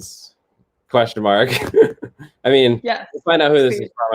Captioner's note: laughter